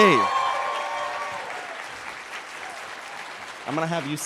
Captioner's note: cheers and applause